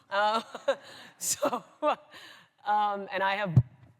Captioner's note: laughs